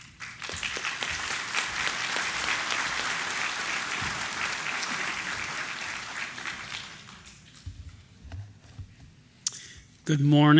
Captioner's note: applause